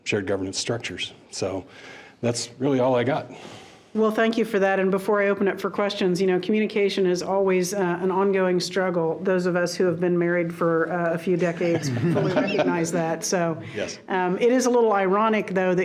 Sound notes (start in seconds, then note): 11.4 people laughing